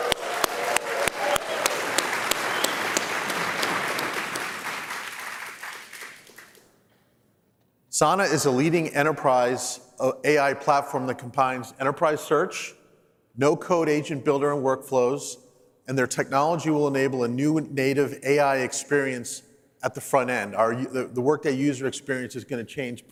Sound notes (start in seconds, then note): 4.0 cheers and applause